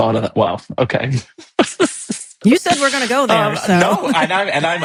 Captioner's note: laughing